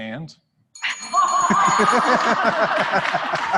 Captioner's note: rang the bell; applause